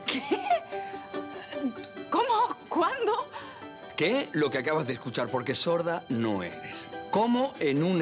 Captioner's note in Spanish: Ríe